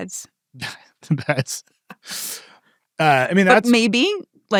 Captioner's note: laughs